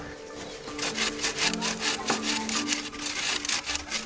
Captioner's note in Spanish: aserrar madera